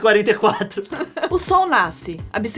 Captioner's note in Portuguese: risadinha